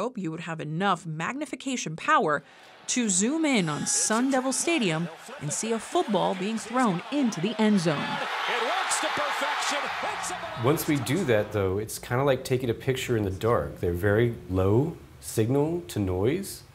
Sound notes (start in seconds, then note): 9.8 crowd cheering